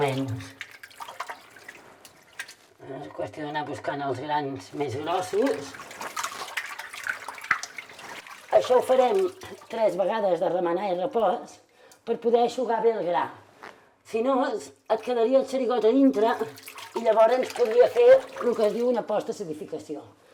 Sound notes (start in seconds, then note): 0.0 milk splashing; 4.6 milk splashing